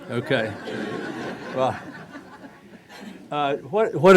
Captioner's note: laughing